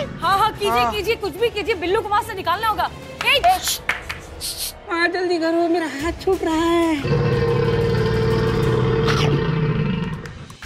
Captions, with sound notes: Do something, we got to get Billu out from there anyhow. Hey! Shh! Hurry up. My hand is slipping. [growling]